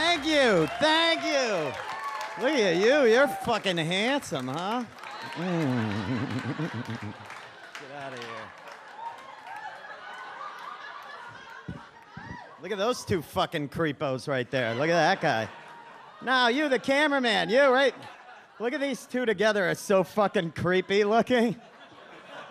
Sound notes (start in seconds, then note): 5.2 audience laughs